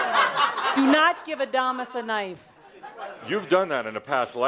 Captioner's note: laughter